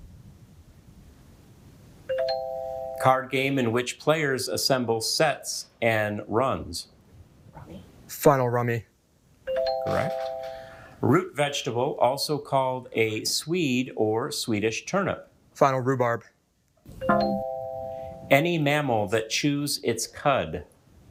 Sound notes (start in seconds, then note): 2.1 bell ringing; 9.6 bell ringing; 17.0 bell ringing; 17.0 buzzer beeping